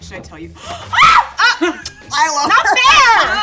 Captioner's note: screams